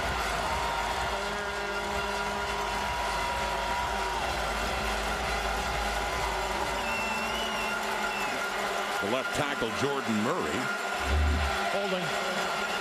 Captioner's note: crowd Noise